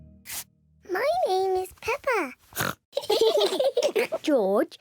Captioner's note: oinks; all laugh